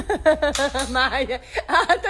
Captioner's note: gun hammer clicks; speaking Portuguese